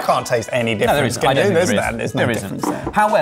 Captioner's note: both chattering